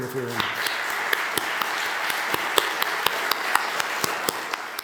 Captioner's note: audience applauding